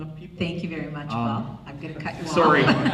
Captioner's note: voiceover; laughs